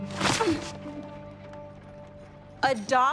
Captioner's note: grunting